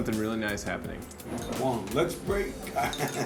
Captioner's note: laughs